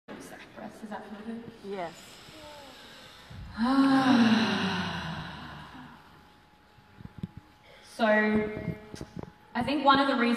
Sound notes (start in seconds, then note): 2.2 deep refreshing sigh